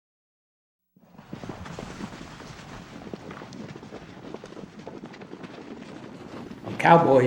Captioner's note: horse hooves, gathering horses to a round corral